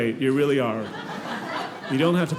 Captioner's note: audience laughing